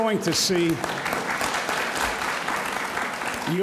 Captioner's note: audience applauds